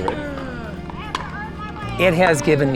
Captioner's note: court noises